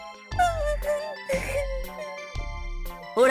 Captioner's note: whimper